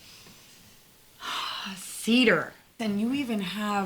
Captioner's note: sniffing